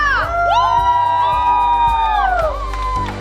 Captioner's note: excitedly yelling; uplifting music